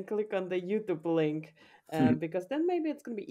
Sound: chuckles

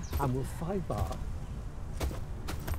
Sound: villagers continue to murmur

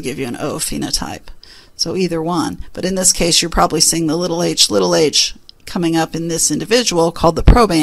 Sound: hh; hh

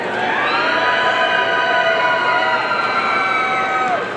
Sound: audience cheering

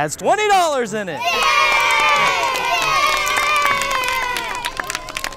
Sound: children cheer

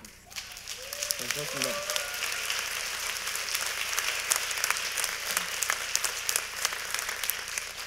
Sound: applaud

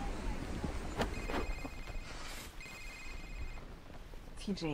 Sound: towel flutters; phone rings

